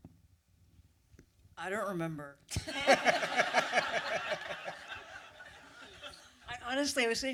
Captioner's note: laughter